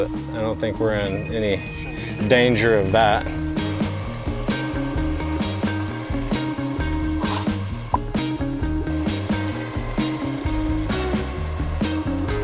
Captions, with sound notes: but I don't think, we're in any danger of that. (upbeat music) (whirring)